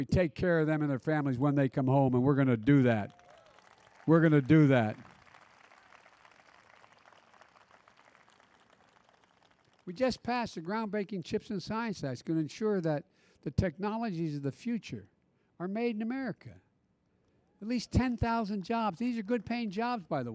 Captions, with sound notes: and we take care of them and their families when they come home, and we're going to do that. (Applause.) We're going to do that. We just passed the groundbreaking CHIPS and Science Act. It's going to ensure that the technologies of the future are made in America. At least 10,000 jobs -- these are good-paying jobs,